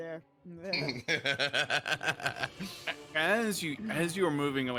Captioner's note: freely laughs